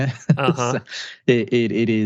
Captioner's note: laughs